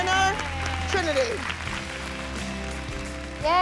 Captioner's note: applause